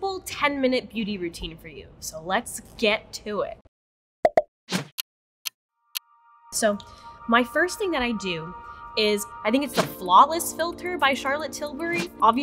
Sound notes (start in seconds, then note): 4.3 bubbles popping; 4.3 clock ticking